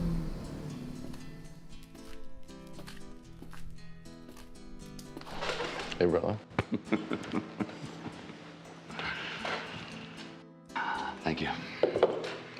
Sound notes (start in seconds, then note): 0.1 gentle upbeat music; 6.5 both laughing